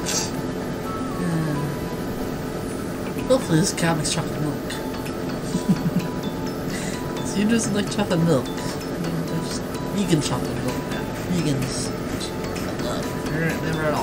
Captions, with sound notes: hopefully this cow makes chocolate milk (laughs) Cause who doesn't like chocolate milk? I mean, there's vegan chocolate milk now. Vegans have almond milk, which I love.